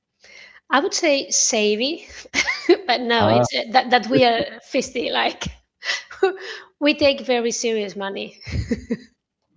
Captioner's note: laughter